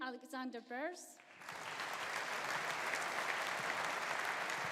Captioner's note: audience applauding